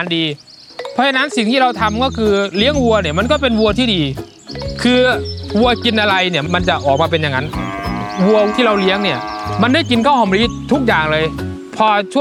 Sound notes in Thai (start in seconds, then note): 7.4 เสียงวัวร้อง